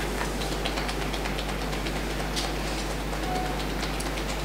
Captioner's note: tapping fingers